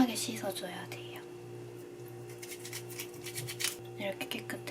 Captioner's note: scrub